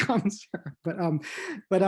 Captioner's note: laughs